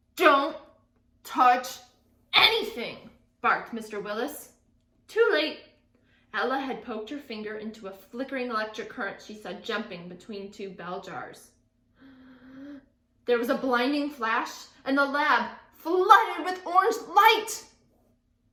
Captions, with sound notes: "Don't touch anything," barked Mr. Willis. Too late, Ella had poked her finger into a flickering electric current she saw jumping between two bell jars. (gasps) There was a blinding flash, and the lab flooded with orange light.